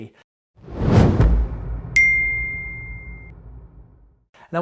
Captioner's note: logo splatting